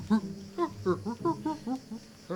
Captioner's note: grunts